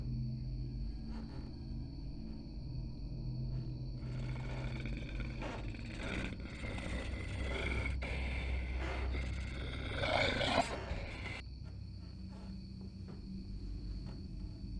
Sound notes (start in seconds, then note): 4.0 werewolf growling; 10.9 tense droning continues